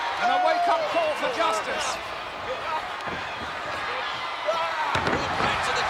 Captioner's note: blows thudding; body thudding